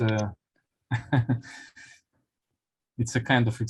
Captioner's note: laughs